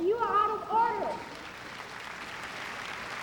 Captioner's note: applause